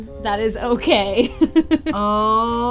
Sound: laughs

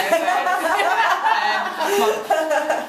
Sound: laughing

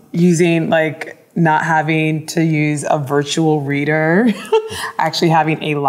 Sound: chuckles

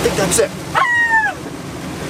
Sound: screech

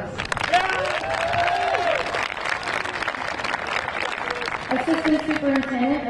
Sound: audience clapping; audience cheering

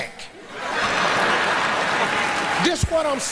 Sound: audience laughs

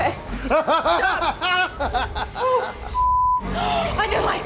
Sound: guide laughs sinisterly

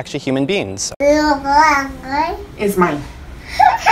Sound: baby babbling; baby laughs

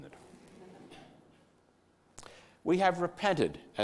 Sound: quiet audience laughter

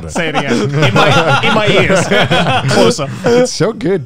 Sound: everyone laughs

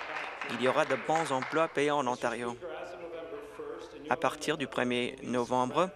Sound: applause

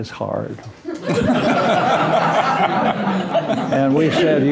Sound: laughter

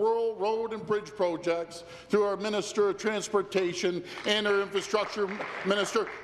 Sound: applause

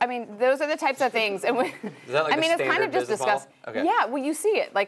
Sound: laugh

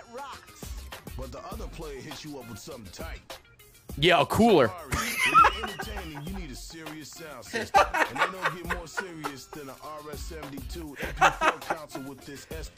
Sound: laughs

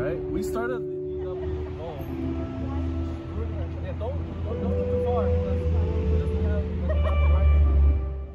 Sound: the sound of cars slowly drowns out their talking

